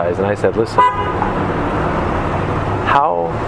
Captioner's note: honk